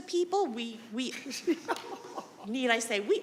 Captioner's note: attendee laughing